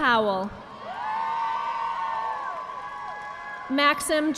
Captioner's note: audience applauding